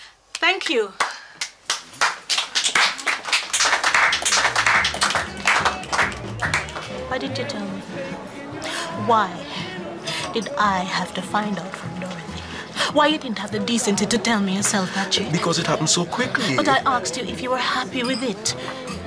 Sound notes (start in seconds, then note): 2.6 light applause